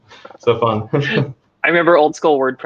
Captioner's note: laughing